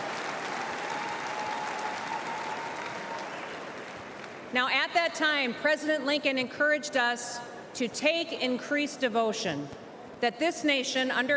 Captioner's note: cheers and applause